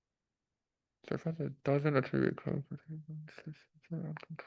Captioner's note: mumbling